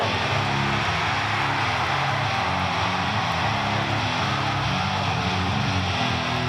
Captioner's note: crowd cheers; upbeat metal music